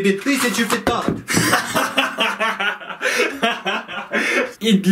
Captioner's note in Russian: Безудержный смех